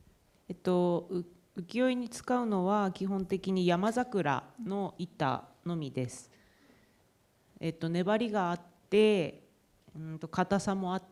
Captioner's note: speaking japanese